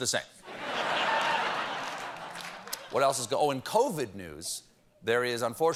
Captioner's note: laughter